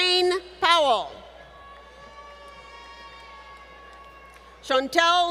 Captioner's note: applause